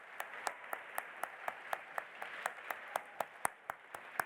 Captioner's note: audience applauding